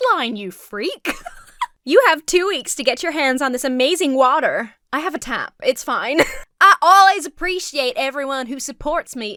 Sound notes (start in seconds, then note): 1.0 laughs; 6.1 laughs